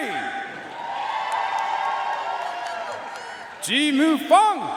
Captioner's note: audience cheering and applauding